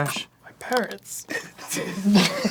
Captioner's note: most gentle sob